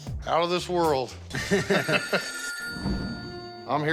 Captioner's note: laughter; phone ringing